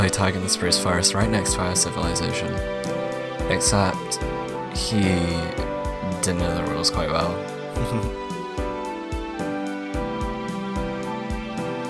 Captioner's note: laughs